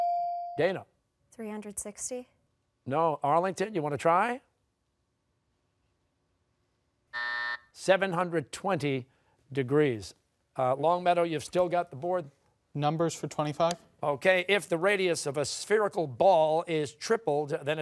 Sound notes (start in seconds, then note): 7.1 buzzer